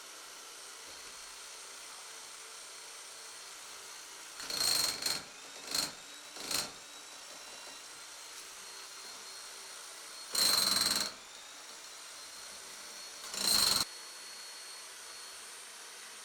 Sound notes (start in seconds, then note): 4.4 jackhammer pounding